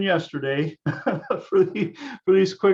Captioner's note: laughs